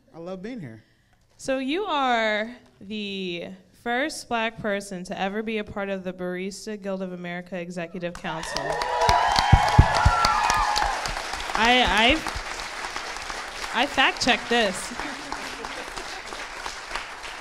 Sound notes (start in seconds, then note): 8.7 applauds and cheers